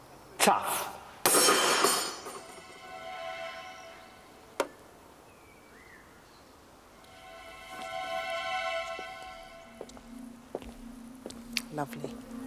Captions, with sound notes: - Tough. (tools clattering) (suspenseful music) - Lovely.